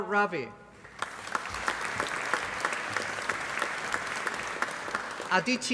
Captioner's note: applause